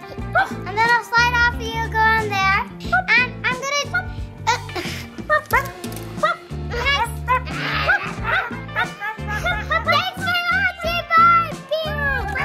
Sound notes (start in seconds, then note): 3.8 mom imitates dog barking; 5.2 everyone imitates dogs' barking